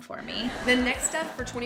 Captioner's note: crowd laughing